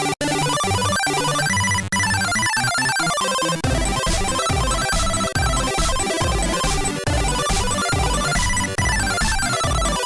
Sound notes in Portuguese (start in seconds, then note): none